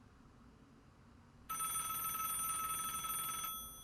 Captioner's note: phone trills